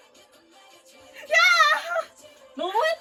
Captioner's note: screaming